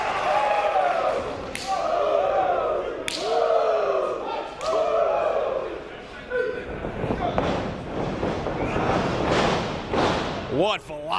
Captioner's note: applause